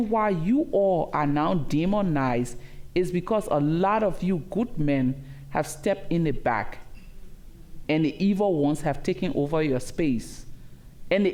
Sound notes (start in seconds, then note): none